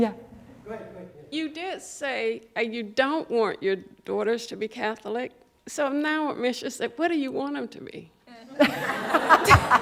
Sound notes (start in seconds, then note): 8.5 laughter